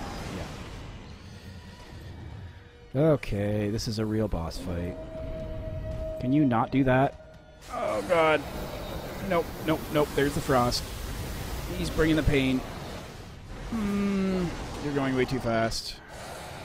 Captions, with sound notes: Yeah... Okay, this is a real boss fight [(howling)] Can you not do that? Oh god Nope, nope, nope There's the frost He's bringing the pain (stressed noises) You're going way too fast